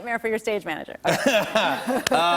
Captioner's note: laughter